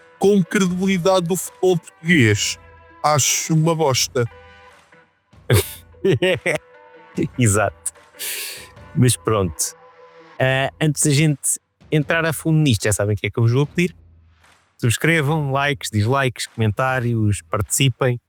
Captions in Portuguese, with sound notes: Como credibilidade do futebol português, acho uma bosta. [Risos] Exato. Mas pronto, antes da gente entrar a fundo nisto, já sabem o que é que eu vos vou pedir. Subscrevam, likes, dislikes, comentários, participem.